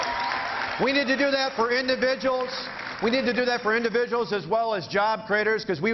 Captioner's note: cheering